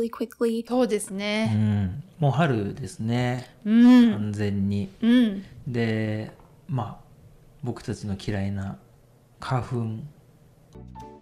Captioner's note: podcast audio